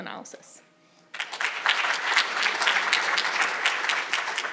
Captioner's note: audience applauding